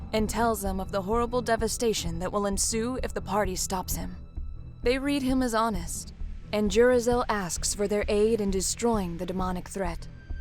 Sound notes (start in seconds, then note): none